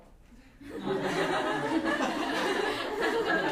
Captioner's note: laughter